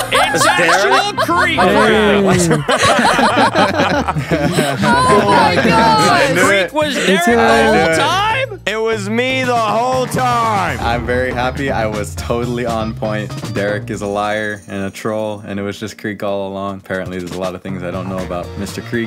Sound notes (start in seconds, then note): 0.0 laughs; 5.1 everyone laughs